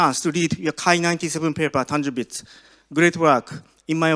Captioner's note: none